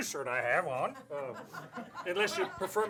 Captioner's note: laughter